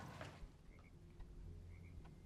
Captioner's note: clattering